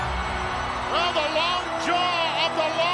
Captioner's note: ominous music; crowd cheering